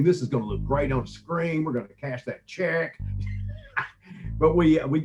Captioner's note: laughs